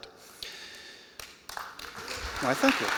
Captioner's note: applause